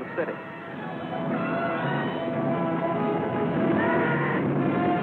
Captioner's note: shouting